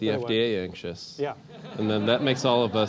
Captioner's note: laugh